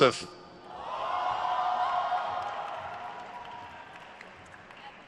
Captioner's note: crowd cheers